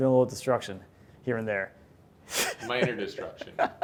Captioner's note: laughs